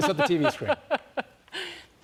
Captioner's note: laughter